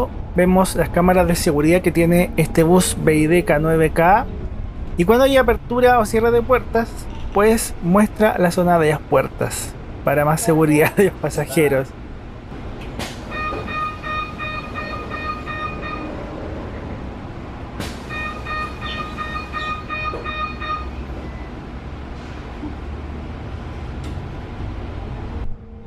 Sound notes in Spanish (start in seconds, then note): 12.6 sonido de apertura y cierre de puertas